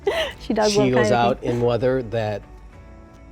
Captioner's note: laughs